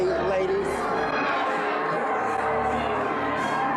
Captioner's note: chatter